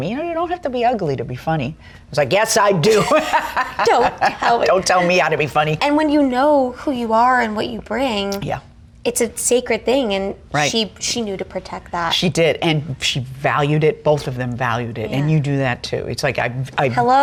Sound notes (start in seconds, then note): 2.9 laughs